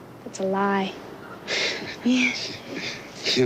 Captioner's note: laughs softly